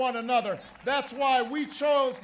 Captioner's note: applause